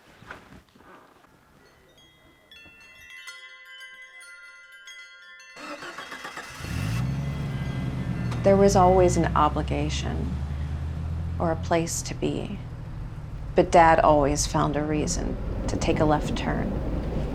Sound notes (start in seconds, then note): none